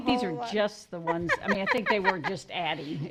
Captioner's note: laughs